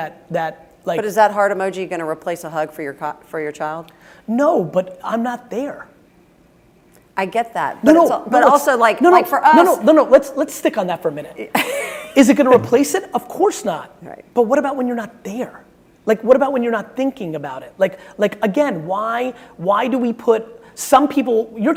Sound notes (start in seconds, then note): 12.4 laughing